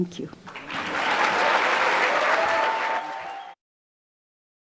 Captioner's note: cheers and Applause